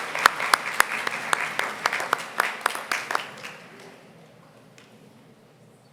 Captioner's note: applause